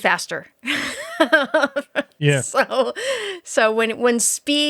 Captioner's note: laughing